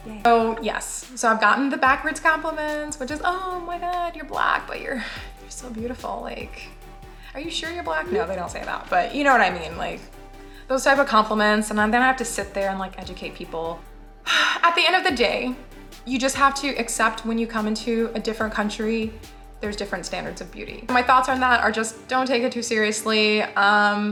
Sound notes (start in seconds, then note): 14.2 sighs